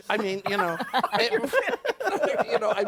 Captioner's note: laughter